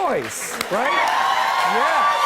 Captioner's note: cheers and applause